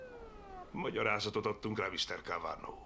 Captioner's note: siren blares